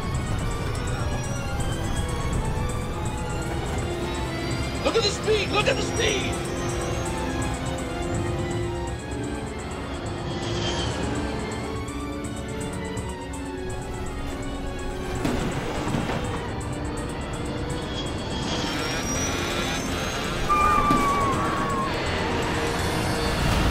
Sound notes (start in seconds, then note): 0.0 plane dropping; 0.3 tense music; 6.6 tense music; 9.9 plane dropping; 11.3 tense music; 15.5 carry-ons falling; 17.3 plane dropping; 17.3 tense music; 18.6 monitor beeping; 18.7 passengers screaming